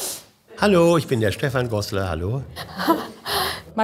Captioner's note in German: Lachen